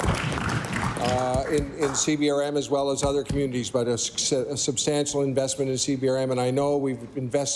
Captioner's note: applause